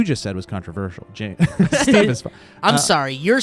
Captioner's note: guys laughing